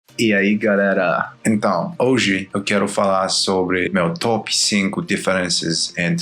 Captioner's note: in Portuguese